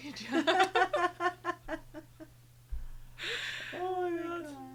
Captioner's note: group laughing